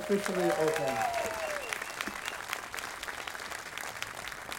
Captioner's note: audience applauding